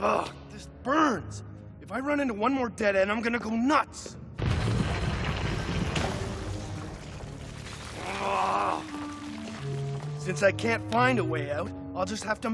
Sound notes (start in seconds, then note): 4.4 rumbling